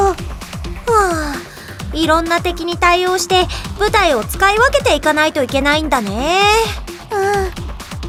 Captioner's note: sigh